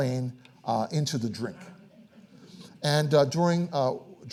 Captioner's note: audience laughing